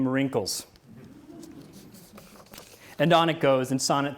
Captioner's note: audience laughs